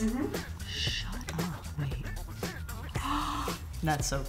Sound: gasping

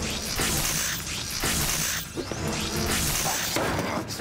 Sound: laser firing

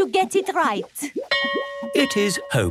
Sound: bell rings

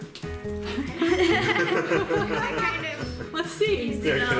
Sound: everybody laughing

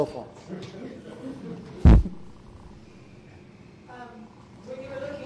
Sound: audience laughter

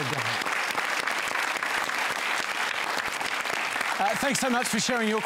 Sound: applause

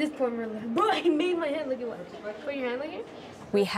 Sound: chatter

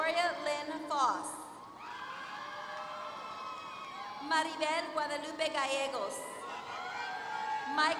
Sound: applause; applause

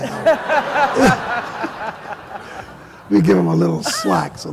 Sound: laughter

